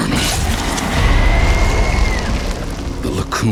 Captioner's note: grito